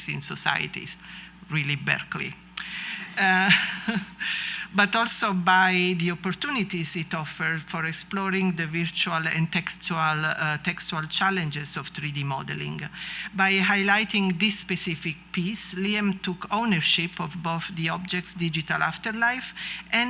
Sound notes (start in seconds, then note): 3.2 laughter